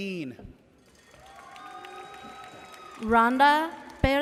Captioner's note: audience cheers